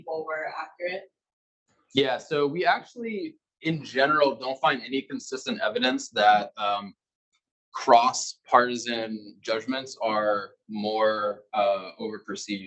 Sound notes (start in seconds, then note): 5.5 male Voice